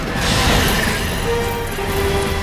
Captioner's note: birds screeching